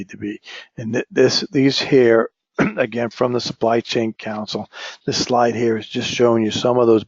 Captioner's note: cough